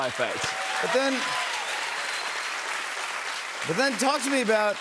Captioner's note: cheers and applause